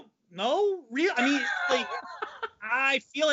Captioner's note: laughing